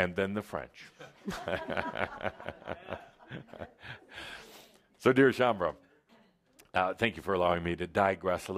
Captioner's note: Adamus chuckles